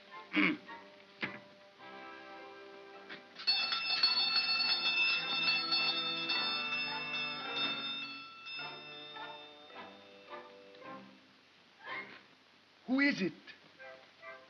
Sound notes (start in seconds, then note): 0.0 mocking tone; 0.3 Ollie grunts; 3.4 bell rings; 8.4 whimsical music